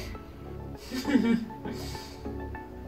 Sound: laughs

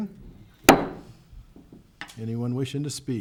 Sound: gavel hammering

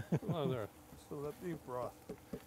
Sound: container tapping

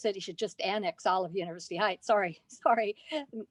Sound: laughter

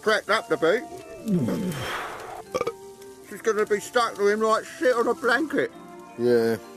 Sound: he belches loudly

